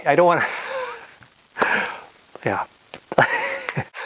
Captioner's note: laughs